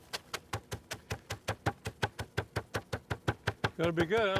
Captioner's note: mallet pounces loudly